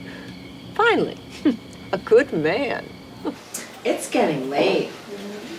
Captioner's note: laughs